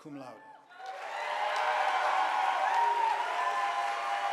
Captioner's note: audience applauding